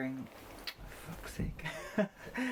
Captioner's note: laughing